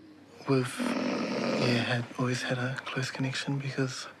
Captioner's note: snores